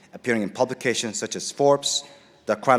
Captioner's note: none